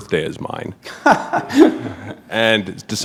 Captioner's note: chuckle